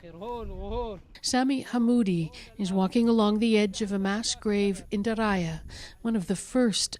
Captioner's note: speaking alternate language